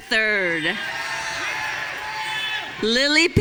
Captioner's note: audience cheering